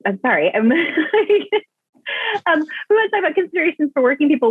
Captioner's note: laughs